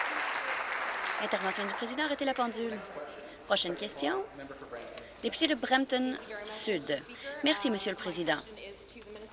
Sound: applause

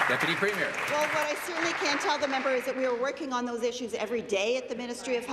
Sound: applause

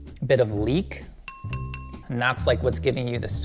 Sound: bell chiming

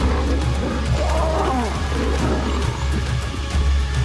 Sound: music intensifies; lioness roaring

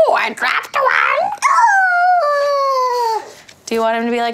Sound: yells

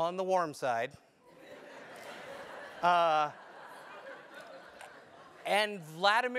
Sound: laugh

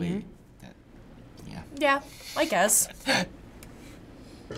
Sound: chuckles

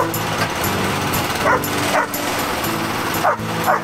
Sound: motor Starts; dog Barks

